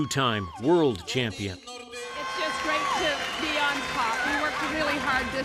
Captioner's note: cheers and Applause; cheers and Applause